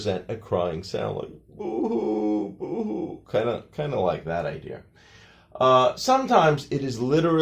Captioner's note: crying sound